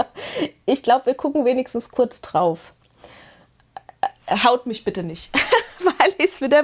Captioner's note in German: Gelächter